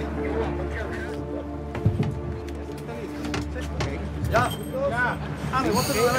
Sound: people speaking in Spanish

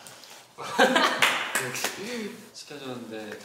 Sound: haha

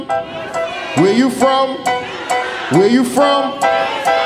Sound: audience shouting

